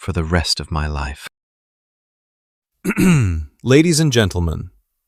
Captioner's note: clears throat